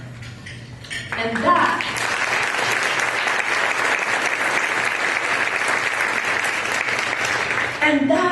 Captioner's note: applause